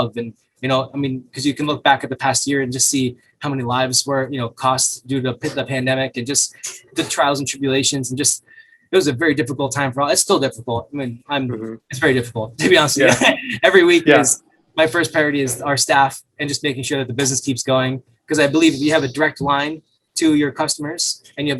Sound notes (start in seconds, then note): 12.6 laughs